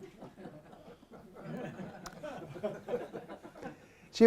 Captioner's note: laughter